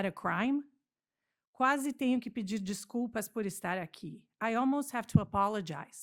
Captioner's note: speaking portuguese